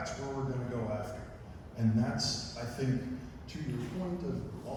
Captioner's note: none